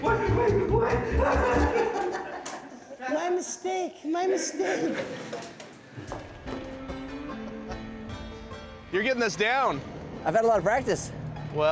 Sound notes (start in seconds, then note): 1.0 laughter; 2.5 bad japanese accent